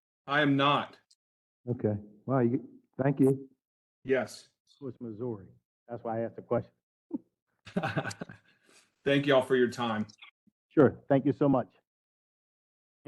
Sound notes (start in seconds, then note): 7.7 laugh